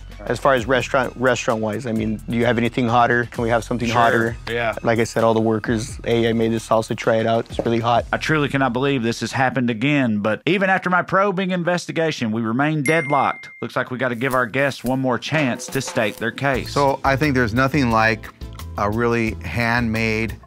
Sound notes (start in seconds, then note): 12.8 bell chimes; 16.1 upbeat music